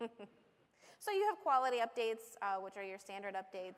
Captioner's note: laughter